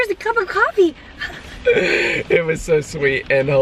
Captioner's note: laughter